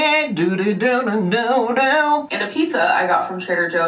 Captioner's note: humming